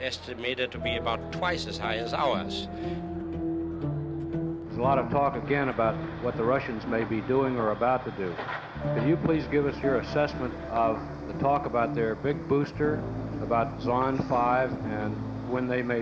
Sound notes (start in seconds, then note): none